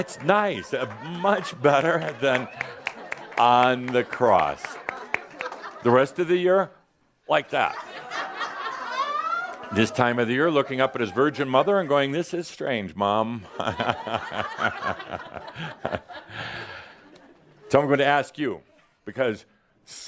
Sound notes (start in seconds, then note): 0.0 some chuckles; 4.0 a few claps; 7.6 more chuckles; 13.4 more laughter